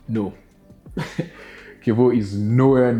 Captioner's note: laughs